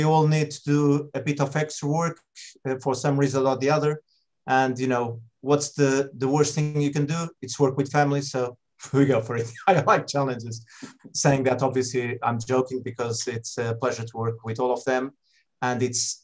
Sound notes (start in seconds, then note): 9.7 laughs